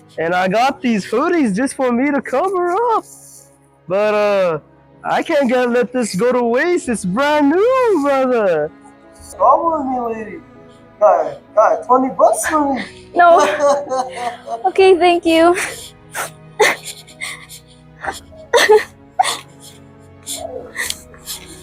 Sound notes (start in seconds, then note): 12.8 laughs; 19.9 gently weeps